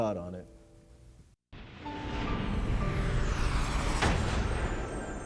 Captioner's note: dramatic sound